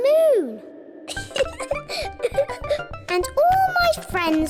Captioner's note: laughs